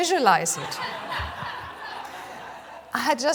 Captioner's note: laughs